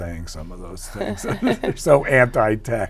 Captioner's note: both laugh